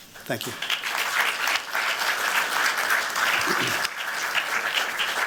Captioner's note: applause